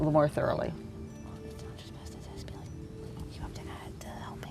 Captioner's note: whispering